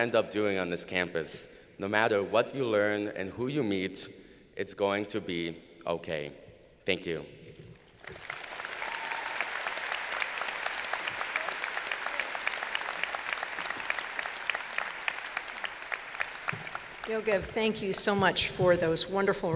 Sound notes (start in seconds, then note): 9.8 applause